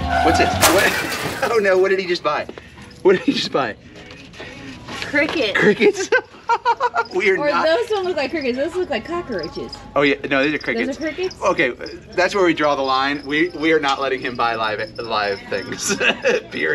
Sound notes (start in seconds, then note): 5.5 laughs